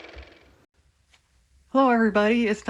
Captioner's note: car motor